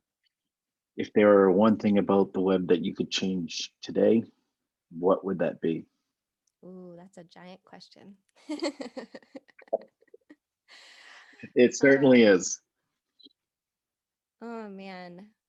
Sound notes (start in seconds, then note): 8.4 both laughing